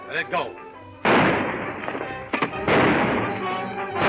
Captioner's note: gun firing; guns firing